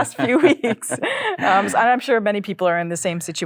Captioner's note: chuckles